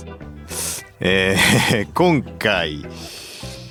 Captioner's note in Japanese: 鼻息